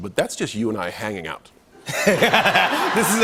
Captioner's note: laughter